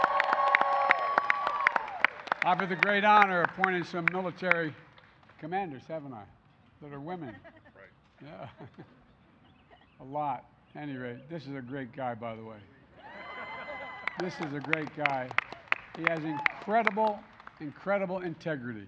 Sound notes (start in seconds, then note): 0.0 applause; 7.0 laughs; 13.2 applause